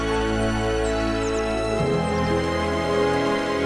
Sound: birds chirping

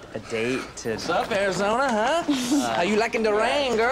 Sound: laughing

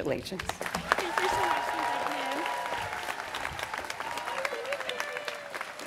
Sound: students cheering

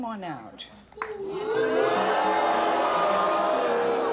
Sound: audience boos

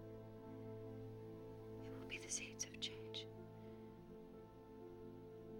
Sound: whispering

